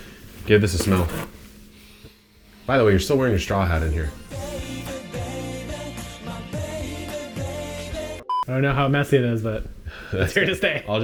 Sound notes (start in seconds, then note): 1.6 sniffing; 8.2 beeping